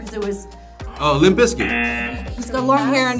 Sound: wrong buzzer rings

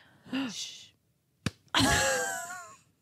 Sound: clapping; laughing

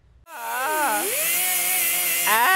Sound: machine buzzing; wails

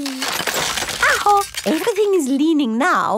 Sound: house creaking

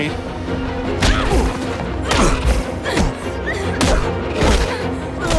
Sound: Dupli-Kate grunting

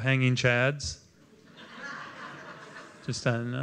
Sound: laughter

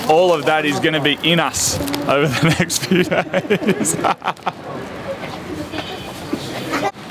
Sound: laughs

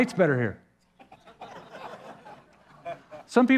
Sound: laughter

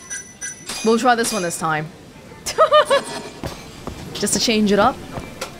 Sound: chuckles

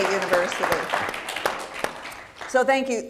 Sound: audience applauding

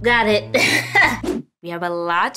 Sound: laughing

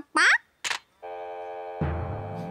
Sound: recipient hangs up

